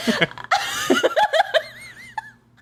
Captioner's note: laughs